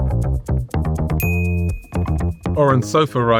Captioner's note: gentle upbeat music; graphics chimes